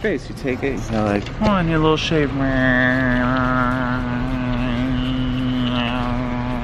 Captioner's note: imitates buzzing